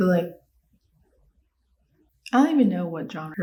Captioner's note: silence